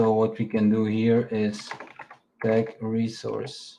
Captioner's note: keyboard clacking